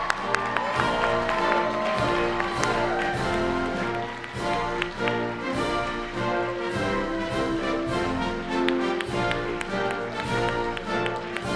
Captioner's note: applause